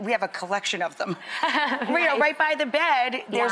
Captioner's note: laughs